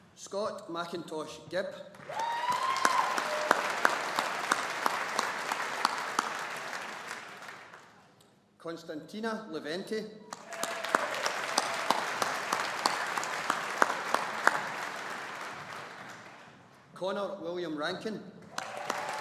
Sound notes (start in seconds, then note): 2.0 audience applauding; 10.3 audience applauding